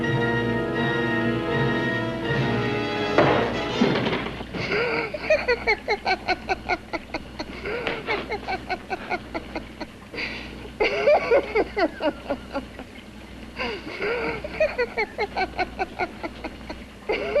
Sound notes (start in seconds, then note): 3.2 pounding at door; 4.5 laughs